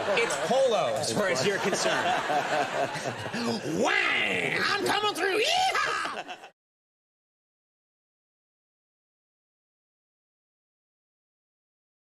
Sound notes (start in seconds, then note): 2.3 audience laughs; 5.3 laughs